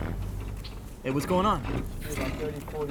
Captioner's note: engine stalling